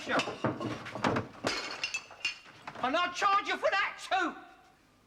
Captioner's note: crash!